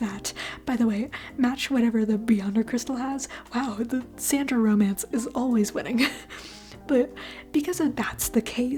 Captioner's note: chuckle